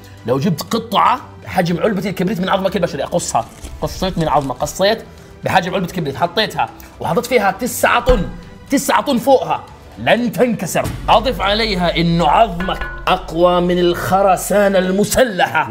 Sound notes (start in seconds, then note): none